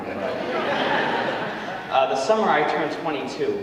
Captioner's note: audience laughing